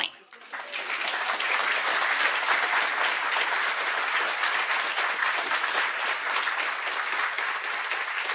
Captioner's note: applause